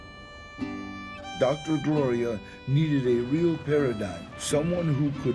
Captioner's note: in English